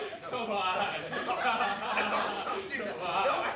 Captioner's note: laughter